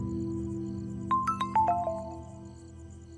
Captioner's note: Phone ringing